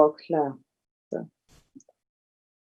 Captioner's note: foreign language